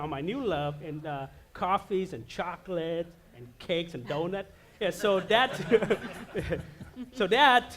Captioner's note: laughter